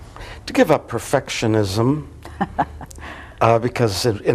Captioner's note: laughs